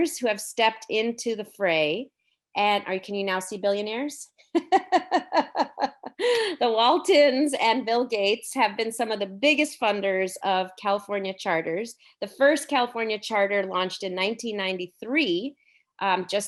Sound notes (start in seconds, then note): 4.6 laughing